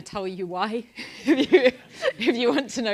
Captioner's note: laugh